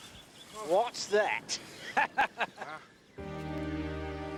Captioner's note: laughing; somber music